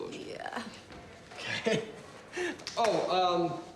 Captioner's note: laughs awkwardly